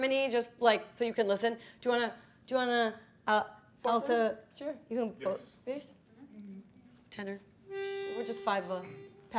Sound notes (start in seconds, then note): 4.0 speaking faintly